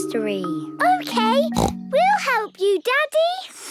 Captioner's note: snorts